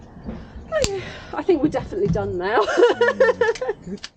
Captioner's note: laughing